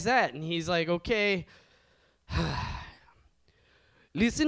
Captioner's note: sighs